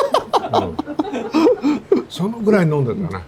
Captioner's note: laughs